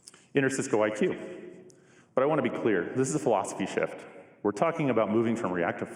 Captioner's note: none